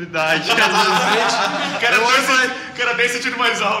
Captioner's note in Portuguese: Risadas